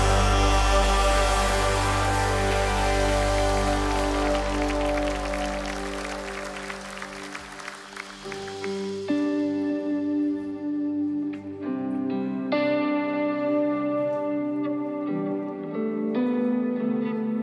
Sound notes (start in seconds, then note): 5.8 applause